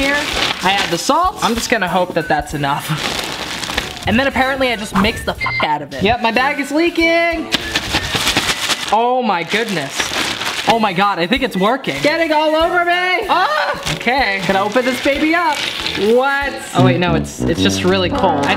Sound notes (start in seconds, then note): 5.0 beep; 13.3 yells